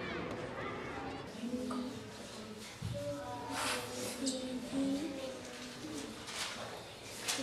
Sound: children reciting

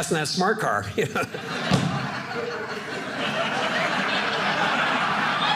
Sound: audience laughing

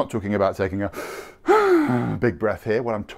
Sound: breaths deeply

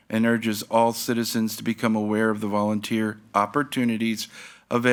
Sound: none

